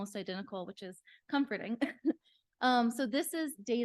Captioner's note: chuckles